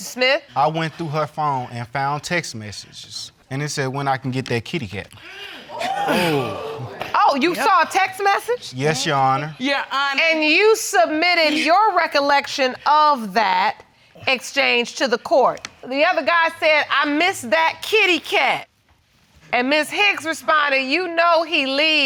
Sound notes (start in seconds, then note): 5.7 audience exclaiming